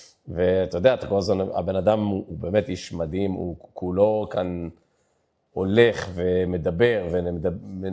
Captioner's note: mock groaning